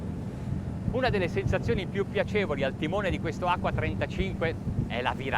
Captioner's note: speaking foreign language